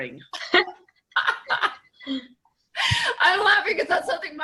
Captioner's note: laughter